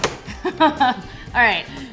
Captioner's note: chuckles